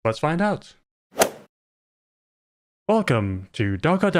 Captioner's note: golf ball hit sound